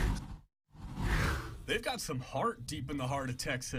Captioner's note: air whooshes